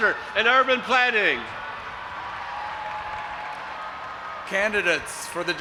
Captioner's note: audience applauding and cheering